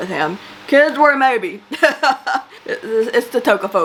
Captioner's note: laughs